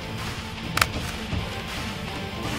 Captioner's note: Clicking sound